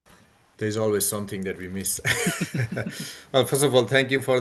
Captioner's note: laughs